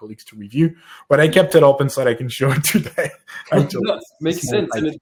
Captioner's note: laughs